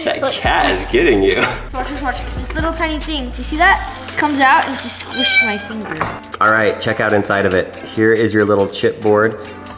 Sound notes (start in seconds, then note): 5.0 cat meows